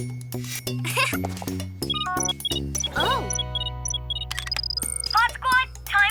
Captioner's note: giggles